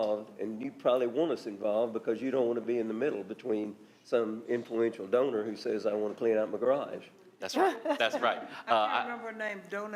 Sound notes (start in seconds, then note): 7.7 others laughing